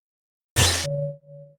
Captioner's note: TV static